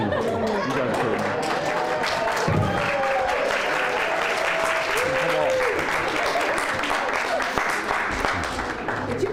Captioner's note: applause